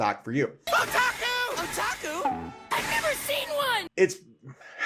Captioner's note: anime show sounds